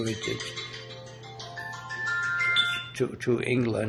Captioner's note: phone ringing